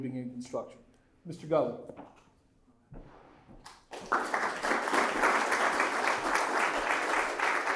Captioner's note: applause